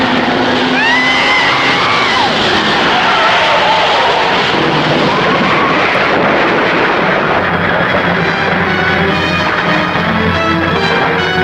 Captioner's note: cars rumbling; tires skidding